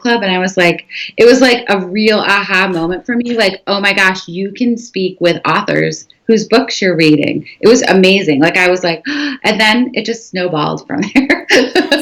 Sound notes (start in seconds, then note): 9.6 gasping